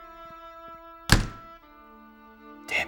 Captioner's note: sound: Door Slams